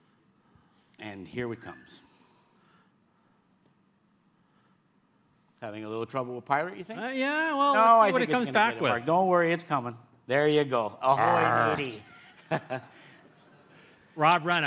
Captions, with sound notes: And here it comes. Having a little trouble with pirate, you think? Yeah, well, no when it comes back with Don't worry, it's coming. There you go. Ahoy, matey. Arrh! [LAUGHS] Rob Reiner.